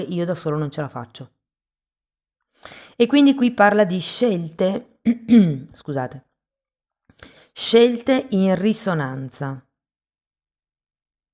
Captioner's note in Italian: schiarire la voce